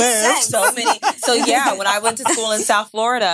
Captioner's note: women laughing